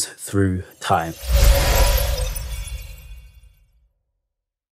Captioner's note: time travel whoosh